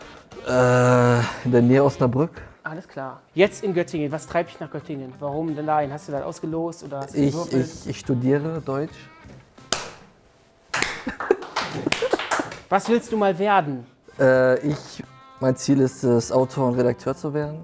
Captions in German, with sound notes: Äh, in der Nähe Osnabrück. - Alles klar. Jetzt in Göttingen. Was treibt dich nach Göttingen? Hast du das ausgelost? Ich studiere Deutsch. (Verhaltener Applaus, Kichern) Was willst du mal werden? Äh, ich ... Mein Ziel ist es, Autor und Redakteur zu werden.